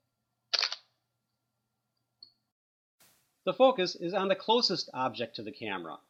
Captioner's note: clicking sound